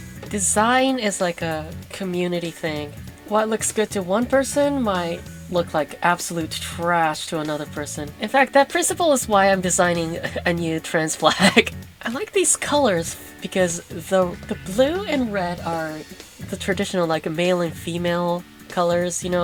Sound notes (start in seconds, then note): 9.8 chuckles